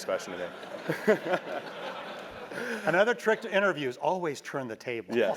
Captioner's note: laugh